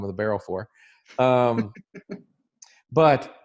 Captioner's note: laughs